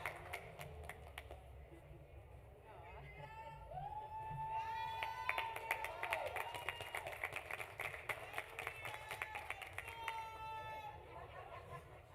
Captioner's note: applause; cheering